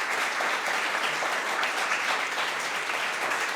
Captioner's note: applause